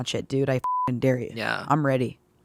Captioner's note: beeping